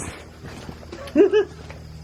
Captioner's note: chuckle